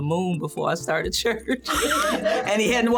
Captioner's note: laughing